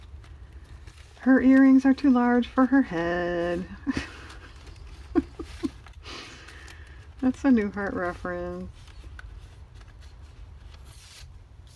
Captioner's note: laughs